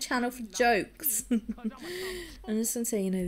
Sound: laughs

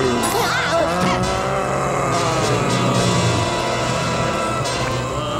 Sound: groaning

